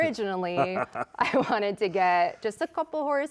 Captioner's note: laughing